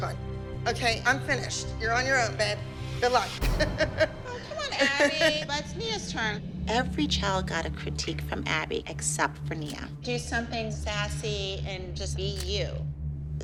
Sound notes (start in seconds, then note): 3.6 laughing